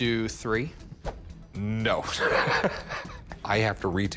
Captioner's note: laughs